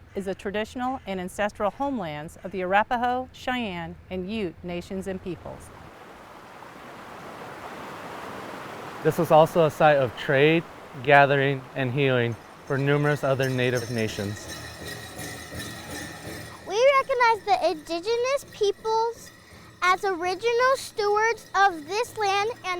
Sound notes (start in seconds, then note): 5.6 water bubbling; 14.6 anklets clinkling